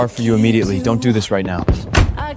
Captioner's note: door slams